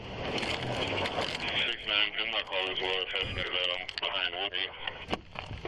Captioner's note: radio chatter